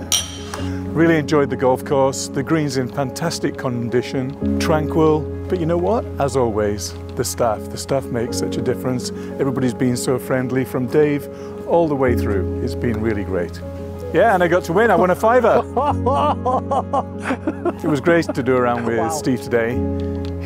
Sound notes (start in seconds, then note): 15.0 laughs